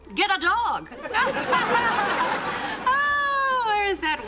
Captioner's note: laughter